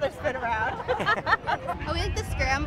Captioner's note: laughter